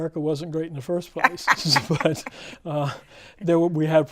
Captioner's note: laughs